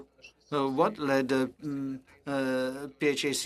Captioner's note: speaking French